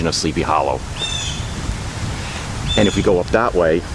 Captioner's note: bird Singing